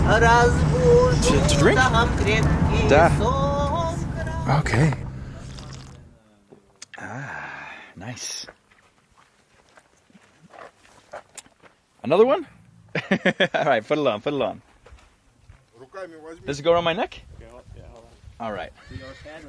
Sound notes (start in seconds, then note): 0.0 woman singing in foreign language; 3.1 speaking in foreign language; 12.9 laughs; 14.3 speaking in foreign language